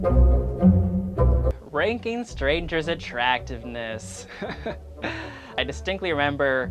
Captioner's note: laughs with fear